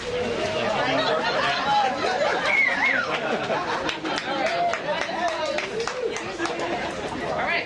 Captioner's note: cheers and applause